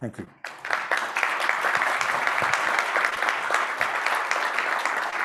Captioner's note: audience applauds